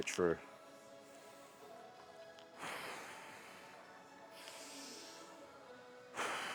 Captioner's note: exhaling